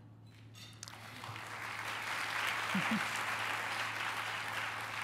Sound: applause

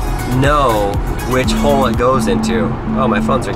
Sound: phone buzzing

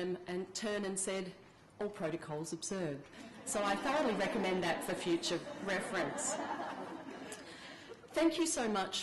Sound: laughter

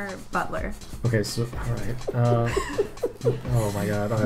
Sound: laugh

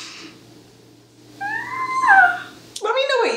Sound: squeal

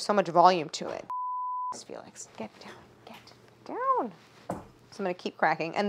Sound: beep

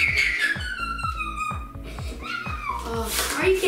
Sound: screaming

